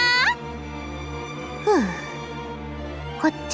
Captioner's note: sigh